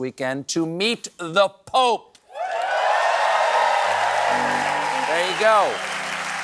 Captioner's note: cheering